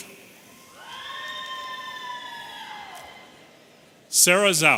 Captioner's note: audience cheering